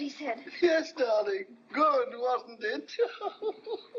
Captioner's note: laughing